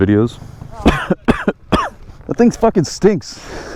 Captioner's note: coughs